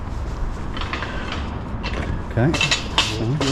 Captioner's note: gate clangs